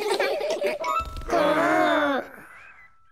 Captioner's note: all laughing; all growling